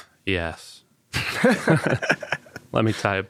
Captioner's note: participants laughing